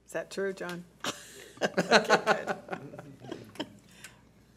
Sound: laughter

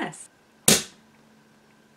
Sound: pop

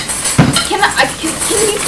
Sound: stuttering

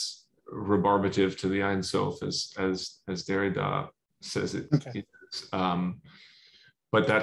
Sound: non-english

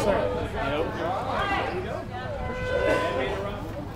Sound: men talking

